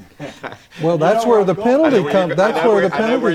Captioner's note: all Three LAUGH